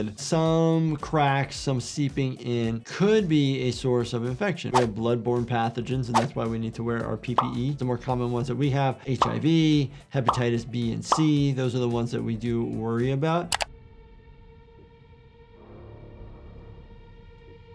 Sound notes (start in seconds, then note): 13.5 mouse clicks; 13.6 somber tense music